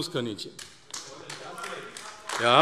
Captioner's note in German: Beifall AfD - Zuruf: Was soll das jetzt?